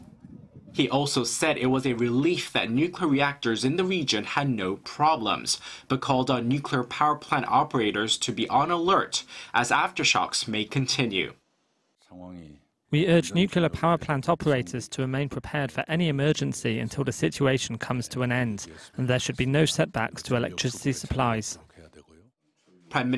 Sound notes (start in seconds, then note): 11.4 Korean